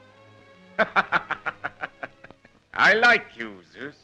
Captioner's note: laughs; chuckle